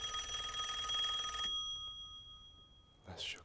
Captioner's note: rings